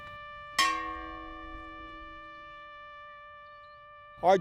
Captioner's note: bell clanging